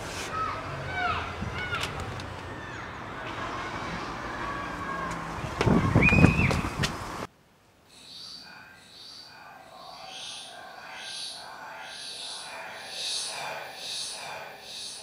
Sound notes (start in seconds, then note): 1.5 distant door click; 8.0 ghostly whispering